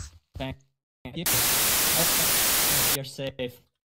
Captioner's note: static